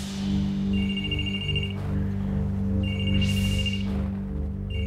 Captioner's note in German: telefon klingelt